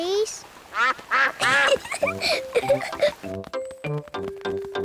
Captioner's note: quacks; giggles